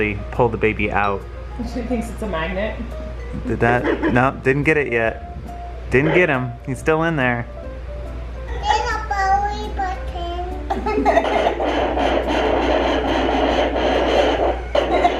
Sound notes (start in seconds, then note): 8.5 baby talking; 8.8 laughing; 10.9 sonogram static